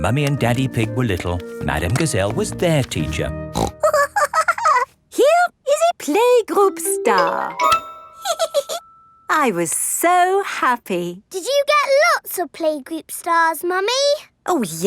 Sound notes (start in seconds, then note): 3.5 snorts and giggles; 8.2 giggles